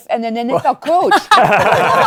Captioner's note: laughter